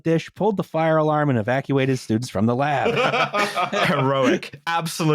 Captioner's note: quite a bit of laughter